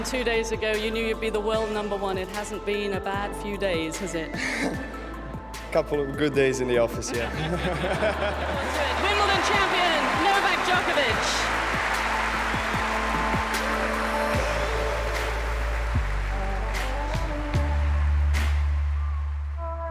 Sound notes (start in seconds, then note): 7.1 laughing; 12.2 wild cheering and applause; 16.7 instrumental music